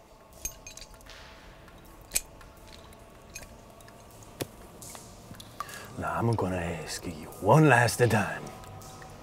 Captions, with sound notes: (wrench clanks) - Now I'm gonna ask you one last time.